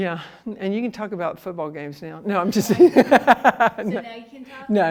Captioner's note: laughs